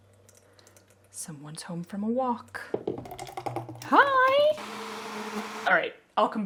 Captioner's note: pouring noise